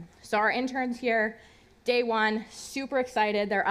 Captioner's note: none